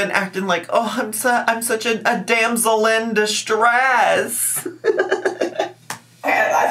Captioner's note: laughs